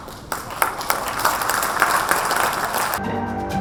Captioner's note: audience claps